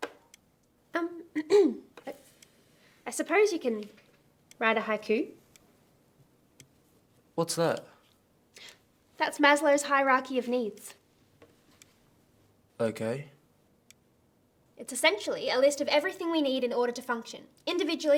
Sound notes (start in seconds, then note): 1.3 clears throat